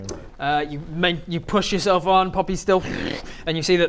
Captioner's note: hwrgggh